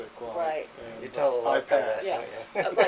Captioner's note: laughs